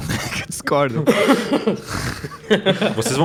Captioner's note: laughing; laughs